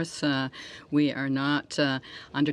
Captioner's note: speaking French